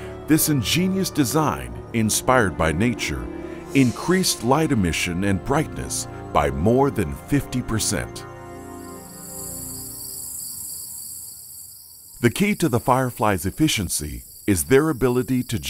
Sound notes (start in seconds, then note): 9.0 insects chirping